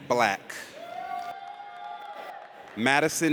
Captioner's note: audience cheers